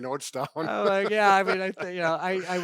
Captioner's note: laughing